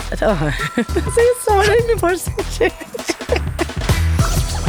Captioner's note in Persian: خنده